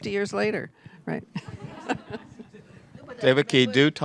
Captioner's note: laughter